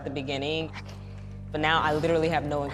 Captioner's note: sniffles